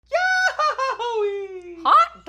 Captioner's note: gleeful squealing